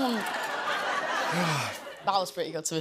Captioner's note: laughter